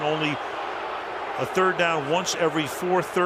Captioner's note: booing